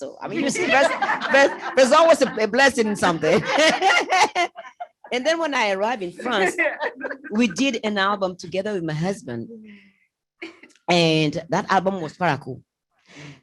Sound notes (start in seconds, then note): 3.3 laughter